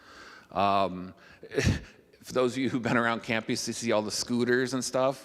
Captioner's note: chuckling